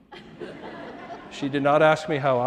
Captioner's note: audience laughing